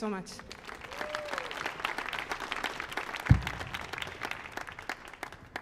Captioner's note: audience cheering and applauding